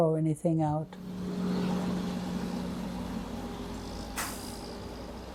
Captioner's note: cars driving